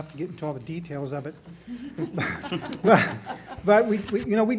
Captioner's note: laughing